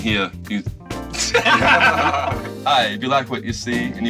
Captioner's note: laughs